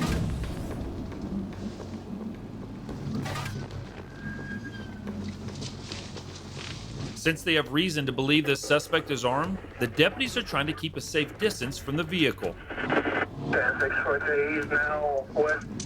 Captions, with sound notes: [sirens wailing] [sirens wailing] - Since they have reason to believe this suspect is armed, - Since they have reason to believe this suspect is armed, the deputies are trying to keep a safe distance from the vehicle.